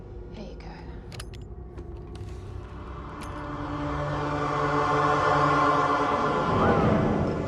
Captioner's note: latch clicks; eerie music; Bigelow whistles